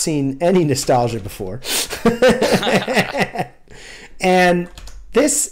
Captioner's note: laughter